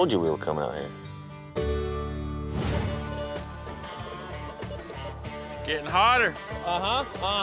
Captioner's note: beeping sound